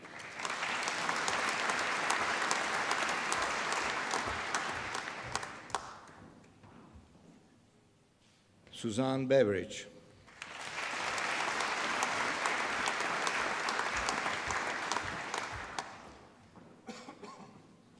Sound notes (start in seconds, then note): 0.0 applause; 10.2 applause